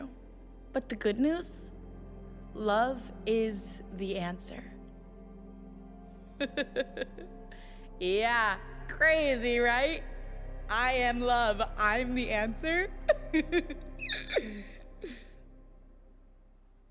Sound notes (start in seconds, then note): 6.4 laughs; 13.0 giggles